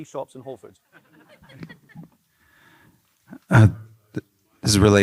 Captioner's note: laughs